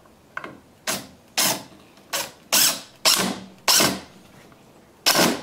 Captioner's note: impact driver whirring in spurts